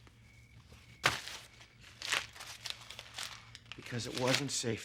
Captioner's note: paper rattling